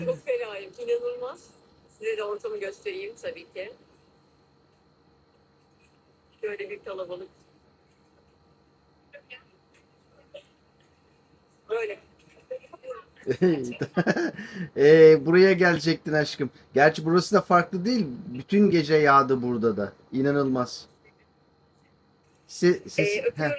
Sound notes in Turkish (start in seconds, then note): 13.3 kahkaha